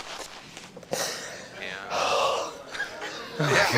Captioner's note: laughing